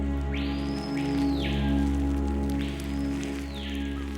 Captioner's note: birds chirping